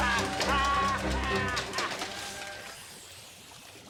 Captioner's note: laughing